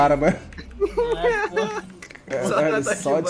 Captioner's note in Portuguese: risos